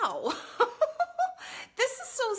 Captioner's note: laughs